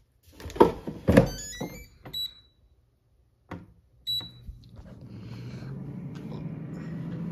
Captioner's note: beeping